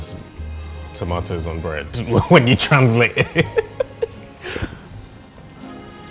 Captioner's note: laughing